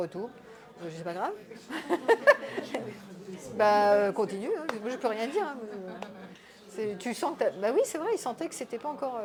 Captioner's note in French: rires